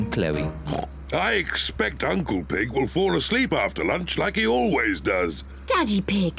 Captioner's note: oinks